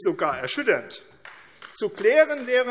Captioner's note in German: Beifall AfD